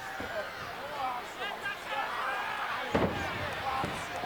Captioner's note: audience chattering; body thuds